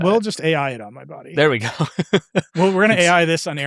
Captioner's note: laughing